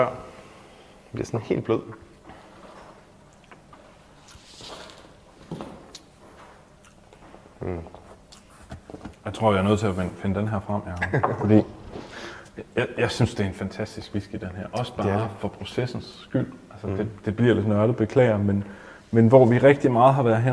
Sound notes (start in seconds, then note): 3.6 enjoyable groan